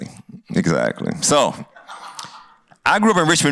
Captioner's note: laughter